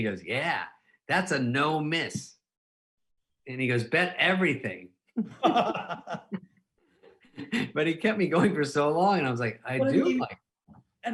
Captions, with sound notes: And he goes, "Yeah, that's a no miss." And he goes, "Bet everything." (both laughing) But he kept me going for so long and I was like, "I do like-" - But I mean...